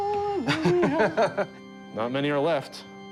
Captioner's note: laughs